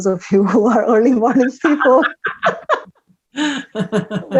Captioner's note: both laugh